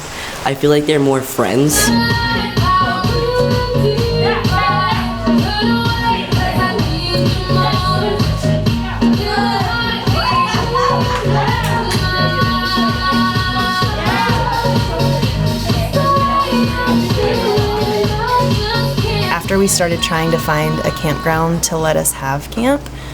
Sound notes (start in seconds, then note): 2.1 upbeat music plays; 10.2 laughter